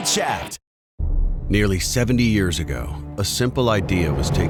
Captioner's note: voiceover